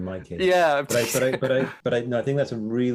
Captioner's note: chuckles